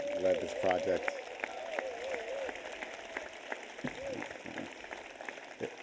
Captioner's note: audience cheers and applauds